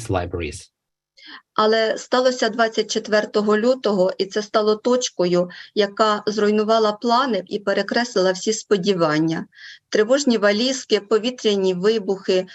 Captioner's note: foreign Language Spoken